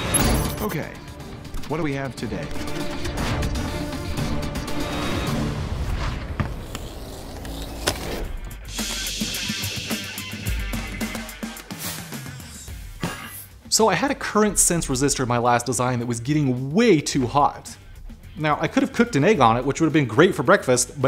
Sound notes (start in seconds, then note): 0.0 cool music; 8.5 air hisses; 11.8 cool music